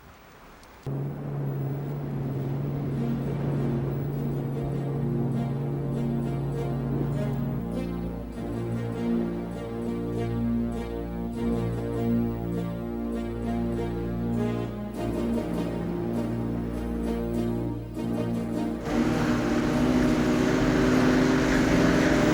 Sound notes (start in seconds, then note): 0.9 motor buzzing; 3.5 foreboding music; 18.0 motor boats buzzing